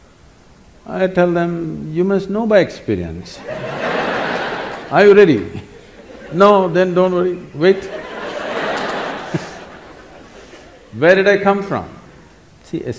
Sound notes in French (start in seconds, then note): 3.7 rire; 7.7 Rires